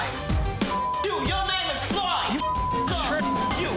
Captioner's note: beep